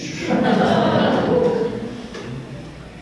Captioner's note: laughs